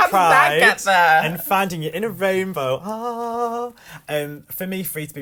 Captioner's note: hums